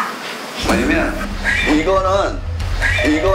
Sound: stammering

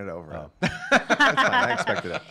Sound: laughing

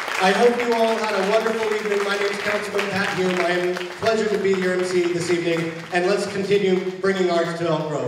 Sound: applause

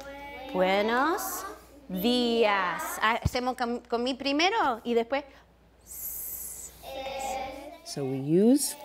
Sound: speaking spanish

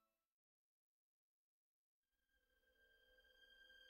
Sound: none

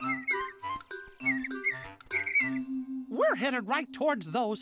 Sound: chirping

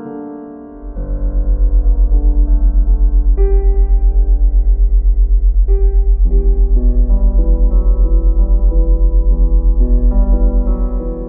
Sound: low, ominous humming sound

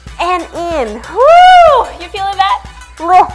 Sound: screams

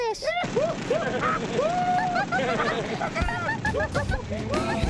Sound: all laughing

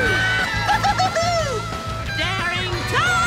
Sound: laughing

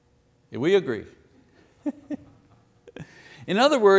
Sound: laughing

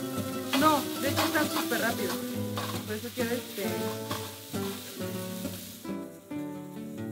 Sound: people talking in background

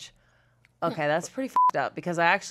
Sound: beep

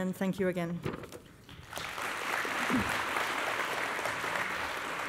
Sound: applause

